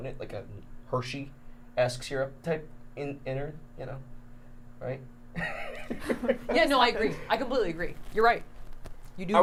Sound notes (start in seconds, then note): 5.4 laughs